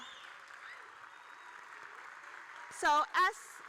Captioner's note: audience cheering